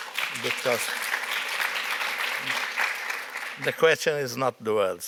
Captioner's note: applause